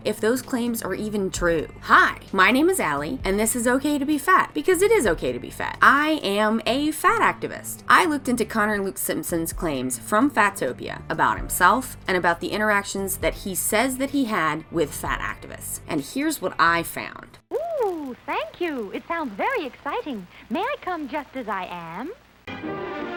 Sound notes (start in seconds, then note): 17.4 actress Voiceover